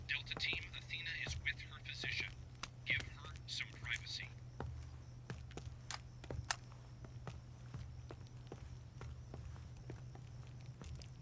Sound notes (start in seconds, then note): 4.5 footsteps thudding